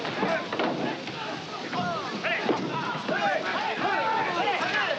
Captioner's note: shouting in Japanese